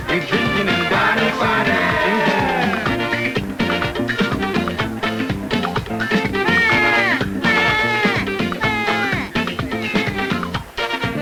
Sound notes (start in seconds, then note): 6.3 baby imitations